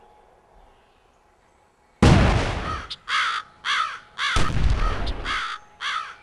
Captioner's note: gunshots